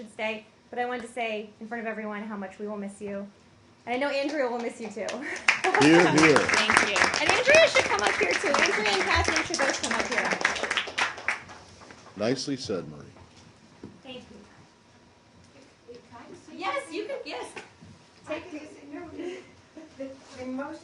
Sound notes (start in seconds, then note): 7.8 applause